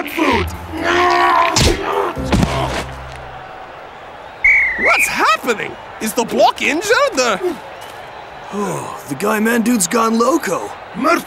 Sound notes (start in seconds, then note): 4.4 whistle blows